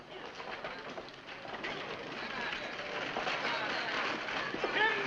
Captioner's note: carriage rattling